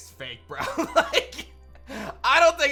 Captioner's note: chuckles